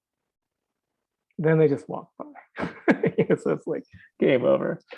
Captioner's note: laughing